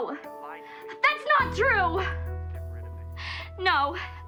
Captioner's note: none